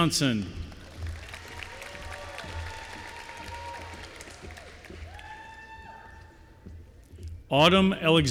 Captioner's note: applause